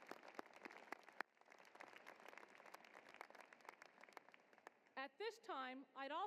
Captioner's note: applause